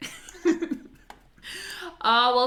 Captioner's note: laugh